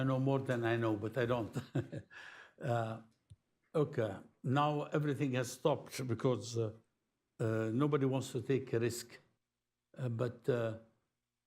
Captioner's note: laughs